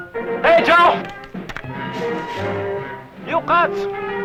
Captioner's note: non-english speech